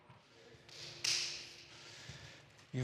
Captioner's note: snap, snap